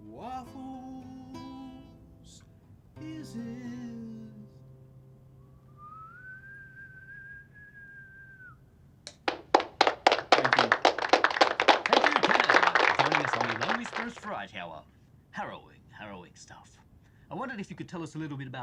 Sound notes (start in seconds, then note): 5.3 whistles; 9.1 applause playing